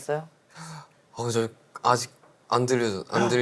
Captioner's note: none